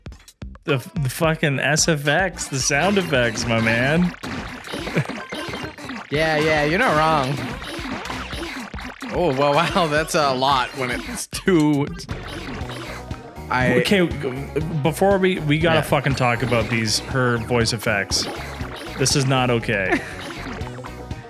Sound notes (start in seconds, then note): 4.4 laughs; 7.0 feminine grunts